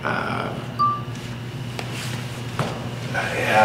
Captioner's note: phone beeps